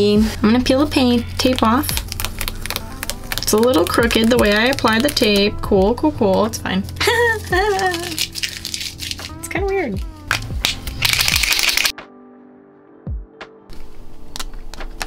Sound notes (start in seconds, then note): 7.0 laughs